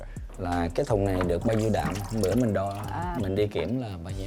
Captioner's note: speaking Vietnamese